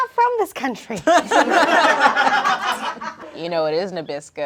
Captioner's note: everyone laughs